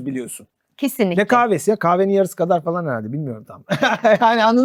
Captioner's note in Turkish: kahkaha